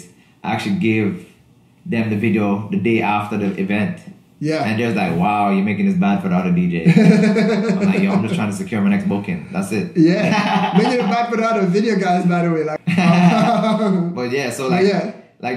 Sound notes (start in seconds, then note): 10.0 laughs; 14.7 laughs